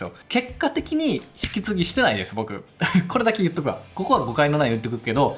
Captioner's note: laughs